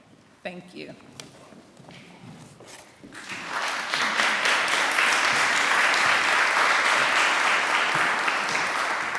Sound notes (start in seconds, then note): 3.1 applause